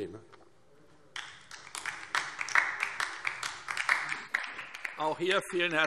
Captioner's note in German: Beifall DIE LINKE